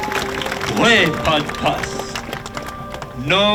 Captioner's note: speaking Duwamish